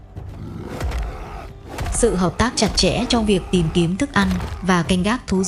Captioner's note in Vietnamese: rên rỉ